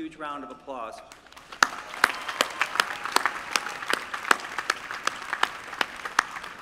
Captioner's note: applause